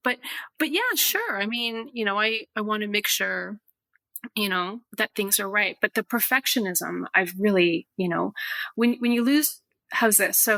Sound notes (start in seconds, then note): none